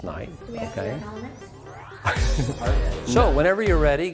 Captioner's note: laughing